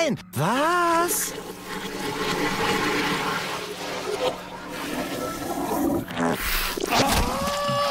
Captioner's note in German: Toilettenspülung rückwärts